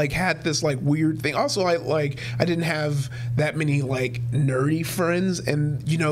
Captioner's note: none